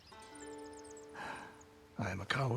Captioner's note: sigh